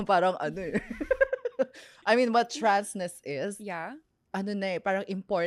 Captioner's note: laughs